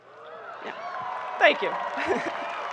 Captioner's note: people clapping